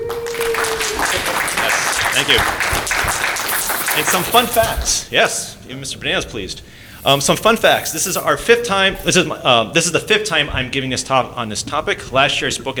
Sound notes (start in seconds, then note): 0.0 applause